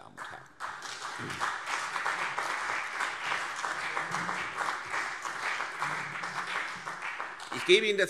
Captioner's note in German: Beifall CDU und BÜNDNIS 90/DIE GRÜNEN